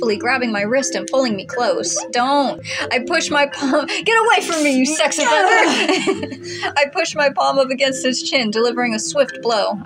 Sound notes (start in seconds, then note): 4.3 laugh; 4.5 chuckle